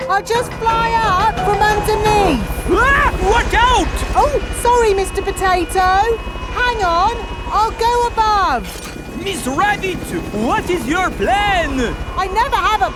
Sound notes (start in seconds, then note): 3.1 screams